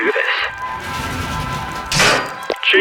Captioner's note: door opens